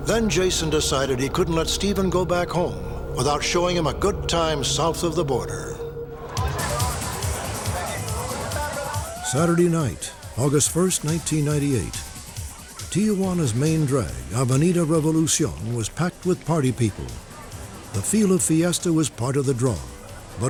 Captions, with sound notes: Then, Jason decided he couldn't let Steven go back home without showing him a good time south of the border. [ROCK MUSIC PLAYING] [CHATTER] Saturday night, August 1, 1998. Tijuana's main drag, Avenida Revolucion, was packed with party people. The feel of fiesta was part of the draw.